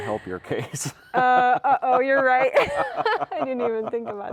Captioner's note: laughing